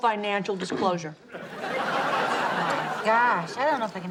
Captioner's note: audience laughs